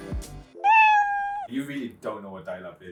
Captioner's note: kitten meowing